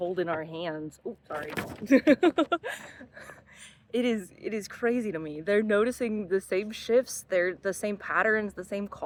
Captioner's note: hahahaha